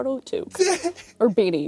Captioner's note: laughs